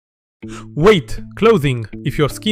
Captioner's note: gasps